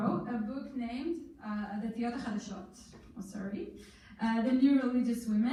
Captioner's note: in foreign language